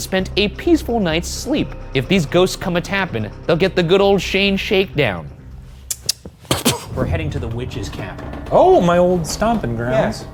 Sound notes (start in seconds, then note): 5.8 lips smacks